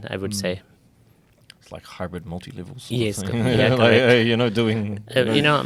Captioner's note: laughs